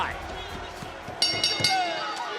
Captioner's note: bell rings